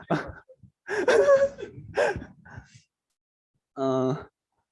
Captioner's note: laughter